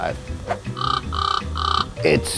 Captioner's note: bird Squawks